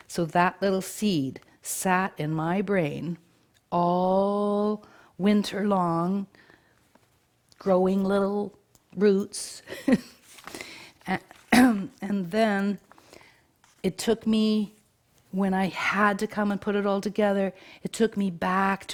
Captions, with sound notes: So that little seed sat in my brain all winter long, growing little roots. (chuckles) (coughs) And then it took me, when I had to come and put it all together, it took me back